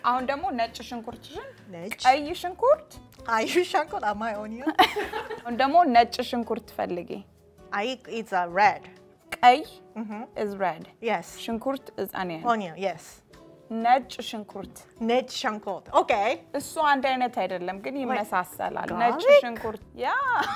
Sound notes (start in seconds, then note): 0.2 speaking Amharic; 5.4 speaking Amharic; 8.2 Amharic; 13.7 speaking Amharic